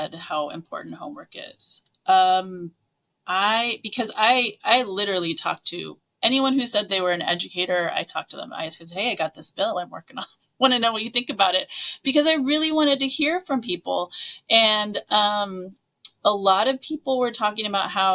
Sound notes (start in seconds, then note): none